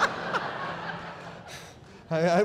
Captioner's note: laughter